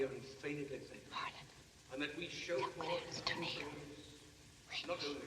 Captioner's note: whispers